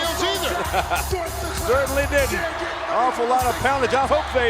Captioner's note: laugh